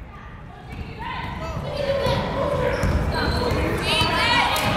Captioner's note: yelling